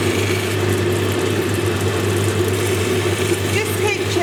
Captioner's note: water dripping